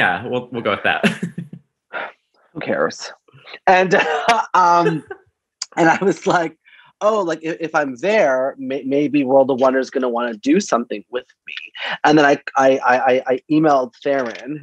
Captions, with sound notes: Yeah. We'll, we'll go with that. (laughs) - Who cares? And (laughs) and I was like, "Oh," like, "If I'm there, maybe World of Wonder is gonna want to do something with me." And then I emailed Farrin,